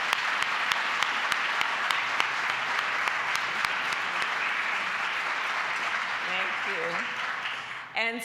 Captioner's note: applause